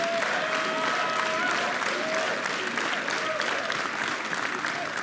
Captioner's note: applause; crowd chanting